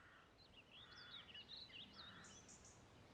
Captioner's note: birds twittering